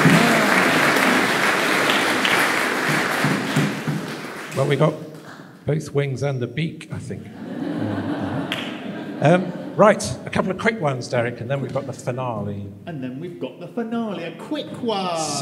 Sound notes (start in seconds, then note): 7.3 laughter